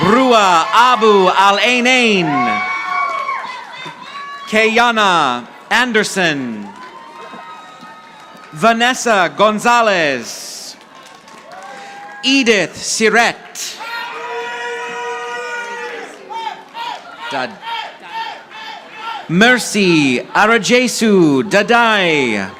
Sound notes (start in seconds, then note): 2.1 audience applauding; 5.8 audience applauding